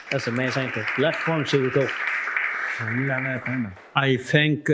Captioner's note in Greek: επευφημίες